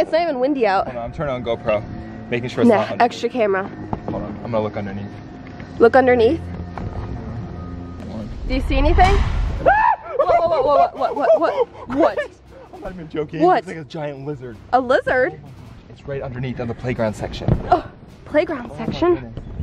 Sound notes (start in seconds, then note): 9.6 suspense music; 9.6 screaming